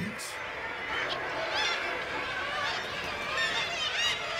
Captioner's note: birds squawking